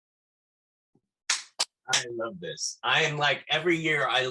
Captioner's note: clapping